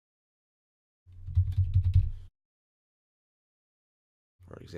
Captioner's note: typing